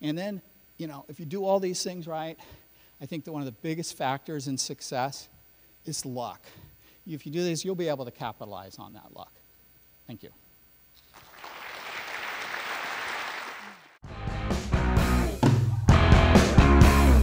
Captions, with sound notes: Then if you do all these things right I think that one of the biggest factors in success is luck. If you do these you'll be able to capitalize on that luck. Thank you! *Audience Claps* *Outro Music*